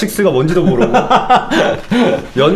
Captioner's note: laughing